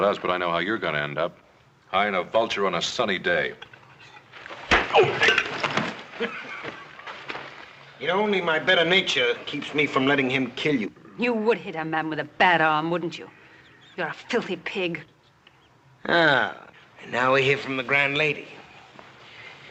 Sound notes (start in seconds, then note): 4.6 smack!; 4.9 Belcher laughing